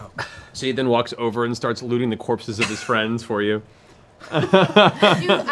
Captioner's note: laughs